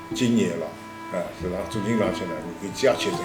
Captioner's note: wu Chinese